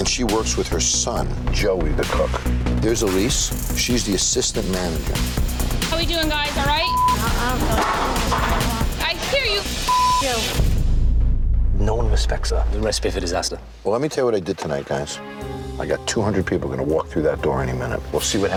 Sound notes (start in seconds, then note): 5.5 dramatic music; 7.2 beep